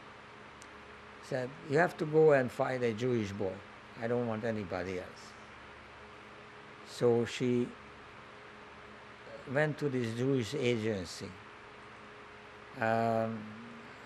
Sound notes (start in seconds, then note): none